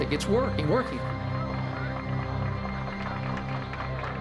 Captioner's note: applause